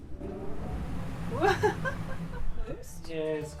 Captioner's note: air blowing